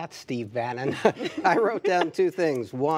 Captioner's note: laughter